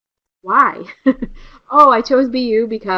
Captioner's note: laughter